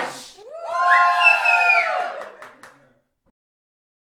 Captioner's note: cheers